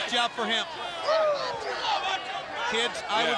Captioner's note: spectators shout